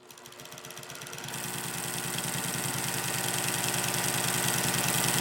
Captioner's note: sewing machine roars